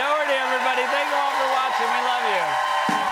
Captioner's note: cheers and applause